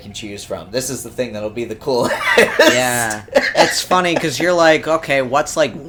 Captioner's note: laughs